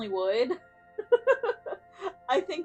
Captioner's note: giggles